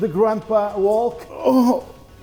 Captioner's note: groaning